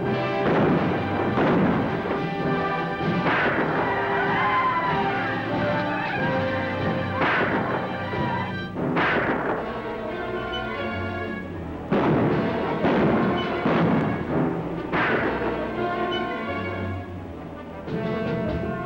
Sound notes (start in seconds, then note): 0.0 gunshots; 0.2 yelling; 5.5 gunshots; 14.8 gunshot